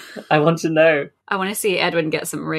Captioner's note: laughing